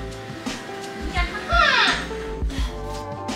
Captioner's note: korok noises